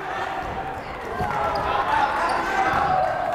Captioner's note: yelling